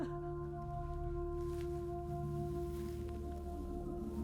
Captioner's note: person crying